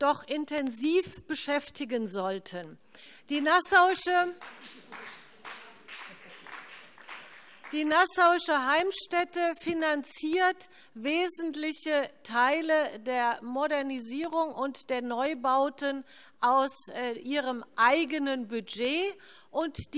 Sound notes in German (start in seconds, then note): 4.4 Heiterkeit und Beifall BÜNDNIS 90/DIE GRÜNEN